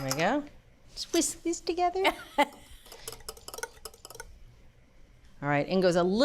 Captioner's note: laughs